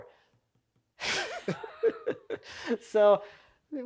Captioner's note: speaker laughing